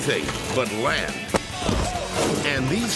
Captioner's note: body plops